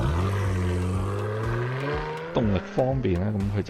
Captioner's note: aftermarket exhaust